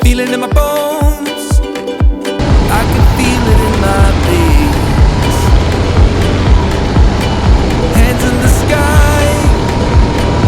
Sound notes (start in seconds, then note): 4.0 motor starts